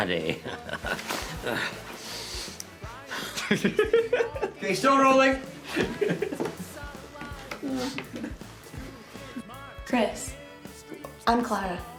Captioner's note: laughter